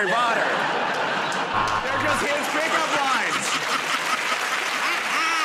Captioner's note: laughter; cheers and applause; laughs